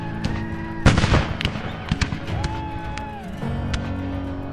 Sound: men shouting; guns firing; upbeat music

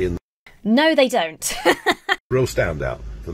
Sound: laughs

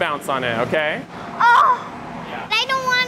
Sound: groaning

